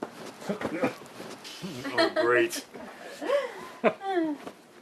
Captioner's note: laughter